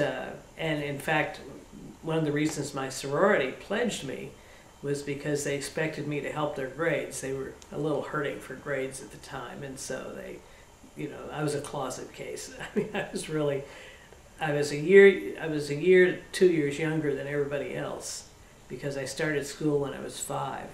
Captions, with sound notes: In fact, one of the reasons my sorority pledged me was because they expected me to help their grades. They were hurting for grades at the time. I was a closet case. (Laughs) I was a year or two years younger than everybody else because I started school when I was five.